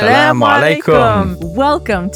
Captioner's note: speaking foreign language